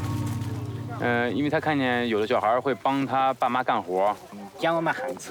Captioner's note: speaking in foreign language